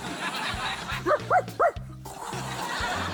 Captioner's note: imitates scraping; barks; laughter